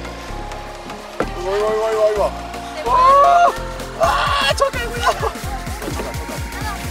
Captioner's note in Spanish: gritos rubianos